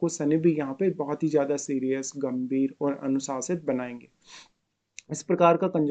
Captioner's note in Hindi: नाक से की जाने वाली आवाज़